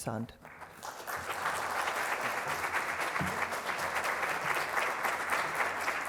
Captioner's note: applause